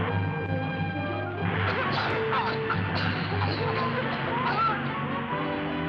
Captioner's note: women coughing